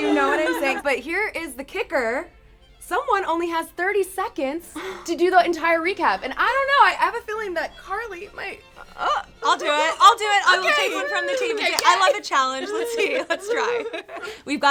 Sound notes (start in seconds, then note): 4.8 gasps; 12.7 all giggling